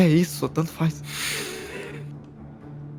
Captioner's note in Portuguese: risos